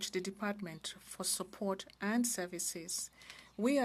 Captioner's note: speaking french